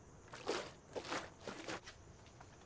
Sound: juice slooshing

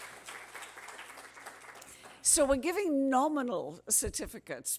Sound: cheers and applause

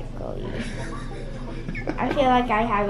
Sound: laughs

